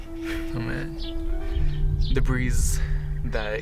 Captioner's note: sighs